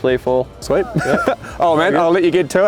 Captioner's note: laughing